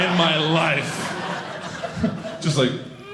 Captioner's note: audience laughing